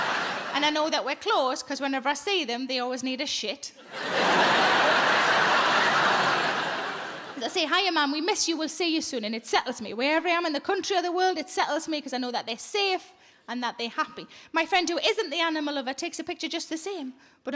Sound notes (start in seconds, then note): 0.0 audience laughs; 3.8 audience laughs